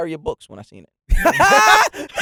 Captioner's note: laughing